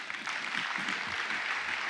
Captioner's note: applause